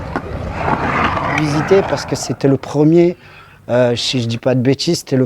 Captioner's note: speaking in foreign language